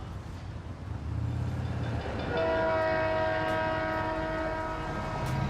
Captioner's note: train horn blows